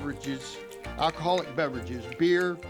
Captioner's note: chittering